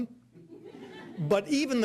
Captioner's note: audience laughing